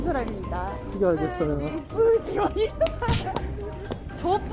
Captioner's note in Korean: 웃음